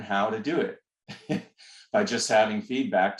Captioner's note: laughter